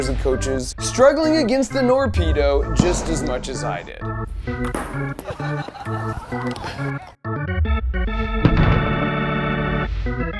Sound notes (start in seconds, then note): 4.9 people laughing; 7.2 jingle music